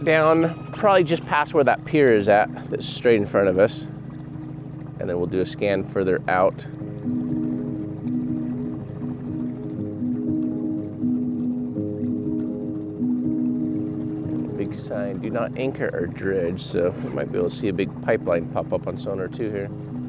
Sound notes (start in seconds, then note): 7.9 boat engine rumbling; 7.9 slow-tempo piano music